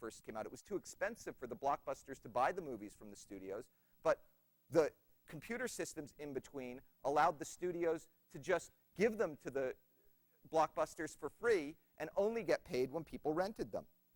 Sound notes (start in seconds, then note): none